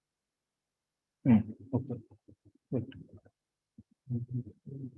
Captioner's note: audio distorts